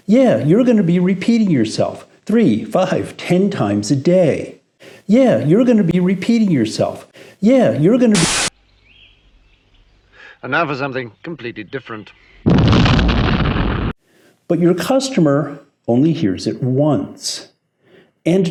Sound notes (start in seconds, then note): 12.4 explosion rumbling